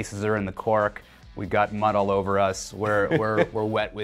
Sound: person laughs

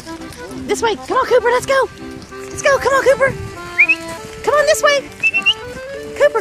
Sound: whistling

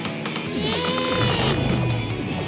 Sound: grunting

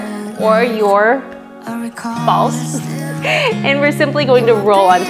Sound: giggles

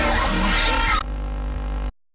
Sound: TV static

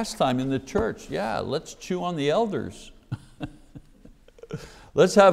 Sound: laughs

